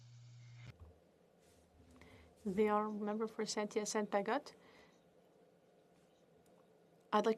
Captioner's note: speaking French